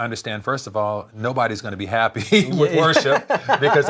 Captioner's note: laughs